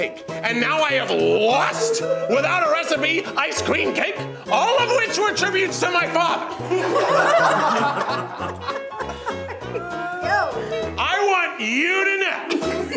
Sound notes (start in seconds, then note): 5.6 judges laughing